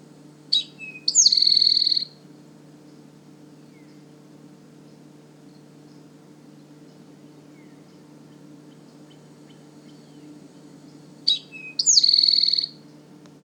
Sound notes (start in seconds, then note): 0.5 towhee singing; 3.4 long pause; 11.0 towhee singing